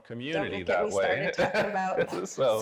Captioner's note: laughing